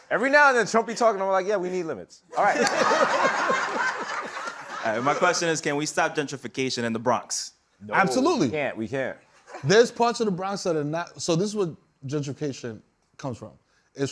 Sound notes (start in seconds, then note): 2.4 laughter